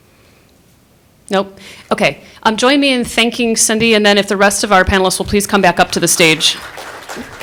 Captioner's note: applause